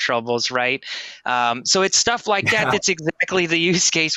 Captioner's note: laughs